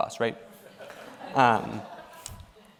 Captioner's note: laughter